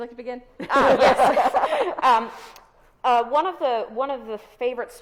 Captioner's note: both laughs